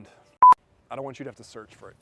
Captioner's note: screen beeps